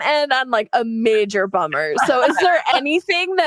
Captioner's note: all laugh